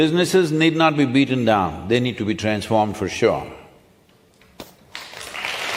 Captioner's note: applause